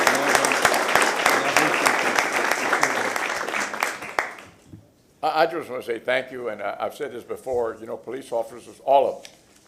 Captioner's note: applause